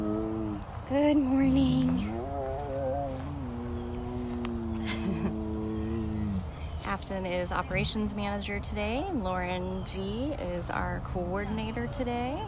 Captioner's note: groan